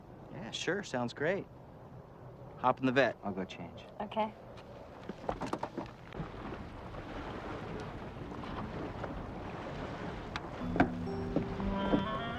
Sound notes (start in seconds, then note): 5.6 waves lapping; 8.1 swanky music